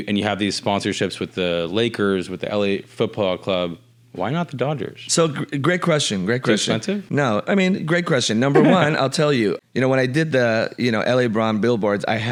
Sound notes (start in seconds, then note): 6.7 mumbles